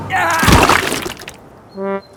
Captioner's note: groans